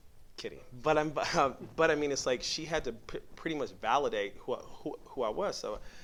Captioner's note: laughs